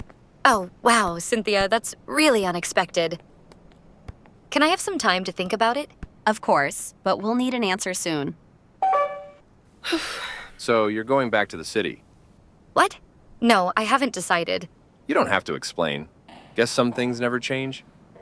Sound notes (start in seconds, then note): 8.8 phone call ends; 9.8 sigh